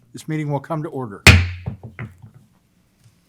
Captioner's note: gavel bangs